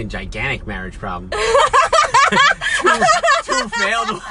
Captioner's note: laughs